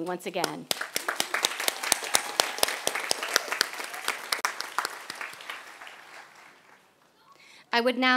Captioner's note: applause